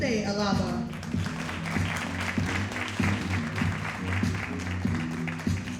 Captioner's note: audience applauding